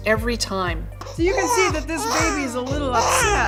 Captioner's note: baby wailing